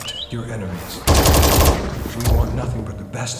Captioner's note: pulse rifle firing